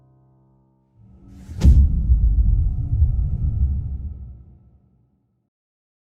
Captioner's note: dramatic sound